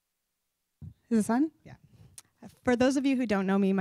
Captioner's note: voiceover